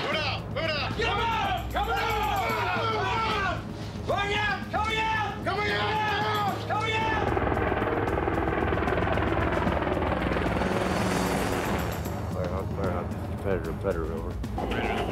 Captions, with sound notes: - [Voiceover] Move out, move out! - [Voiceover] Move, move, move, move! - [Voiceover] Coming out! - [Voiceover] Coming out! (helicopter whirring)